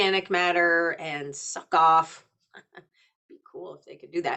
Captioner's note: chuckling